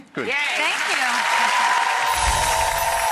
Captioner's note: audience applause